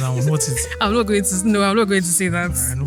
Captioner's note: laughs